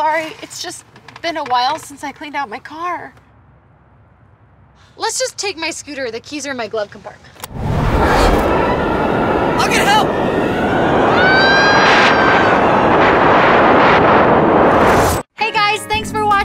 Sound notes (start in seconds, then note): 7.4 wind blowing aggressively; 10.4 wind continues